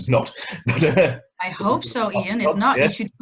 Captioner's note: laughs